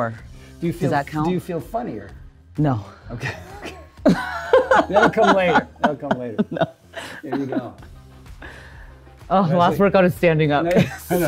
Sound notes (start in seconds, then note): 3.2 both laughing